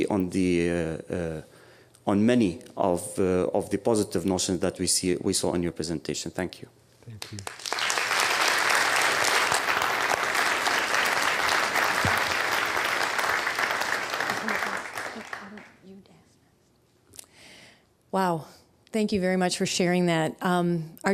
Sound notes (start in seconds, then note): 7.1 applause